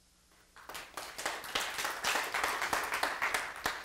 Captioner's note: applause